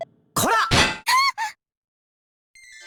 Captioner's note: panicked cry